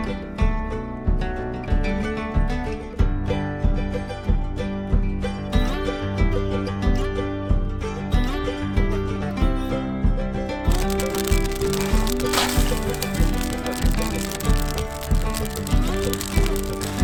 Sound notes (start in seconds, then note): 13.7 fire crackling